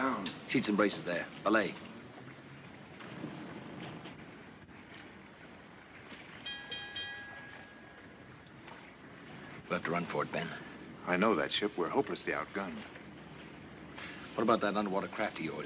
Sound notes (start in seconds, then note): 6.4 bell ringing